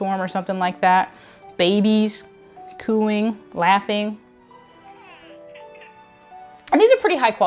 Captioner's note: baby coos